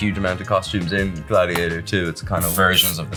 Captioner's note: bottle lid pops; spray hisses